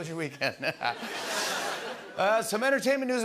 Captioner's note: laughter